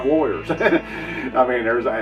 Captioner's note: laughs